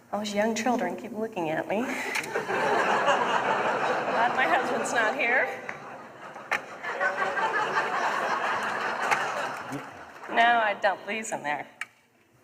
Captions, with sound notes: All these young children keep looking at me. My husband's not here. [LAUGHTER] Now I dump these in there.